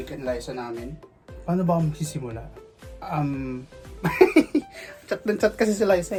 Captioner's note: laughs